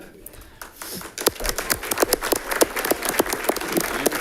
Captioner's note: audience clapping